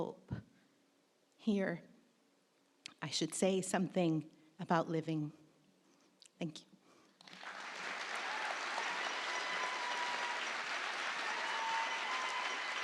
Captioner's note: applause